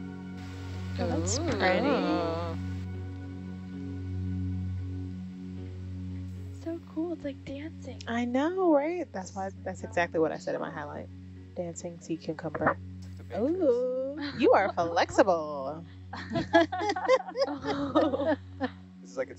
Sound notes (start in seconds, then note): 1.0 woman wowing; 4.2 soothing music; 13.4 woman laughing; 16.1 group laughing